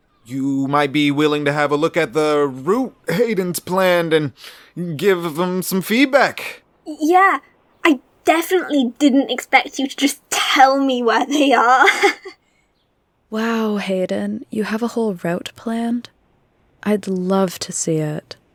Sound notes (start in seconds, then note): 11.3 laughs awkwardly